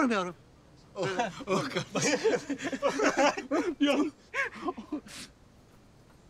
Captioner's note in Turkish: Gülüyorlar